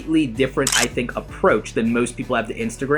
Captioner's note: camera clicking